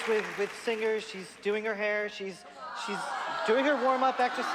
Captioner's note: crowding booing